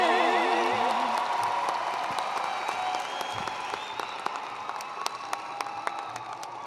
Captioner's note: attendees cheering and applauding